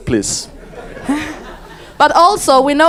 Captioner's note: audience laughs